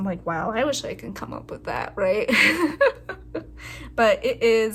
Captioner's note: laugh